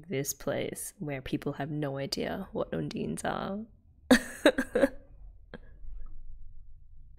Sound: laughs

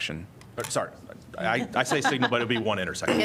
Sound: laughter

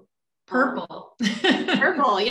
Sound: laughs

